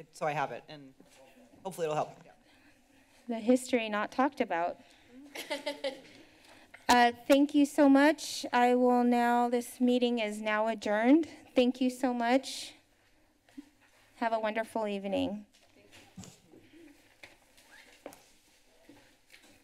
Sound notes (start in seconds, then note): 5.2 laughter